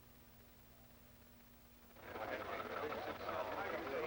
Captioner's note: busy chatter